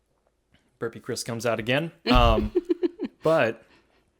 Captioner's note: laughs